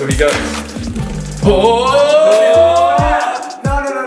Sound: dramatic jeering

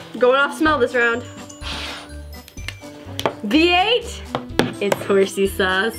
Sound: none

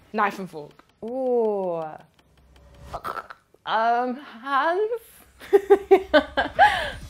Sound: laughs

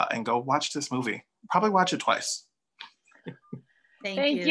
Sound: laughs

